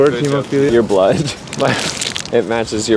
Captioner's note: laughs